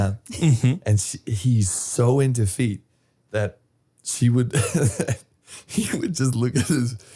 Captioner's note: laughs